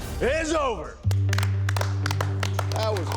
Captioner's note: applause